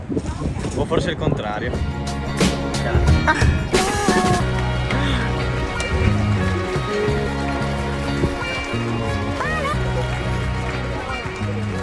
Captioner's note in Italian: Applauso